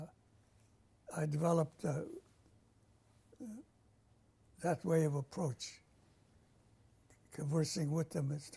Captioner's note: pauses for 3 seconds; pauses for 3 seconds